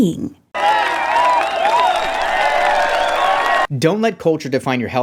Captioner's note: people cheering